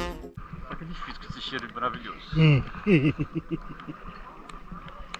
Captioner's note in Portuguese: risos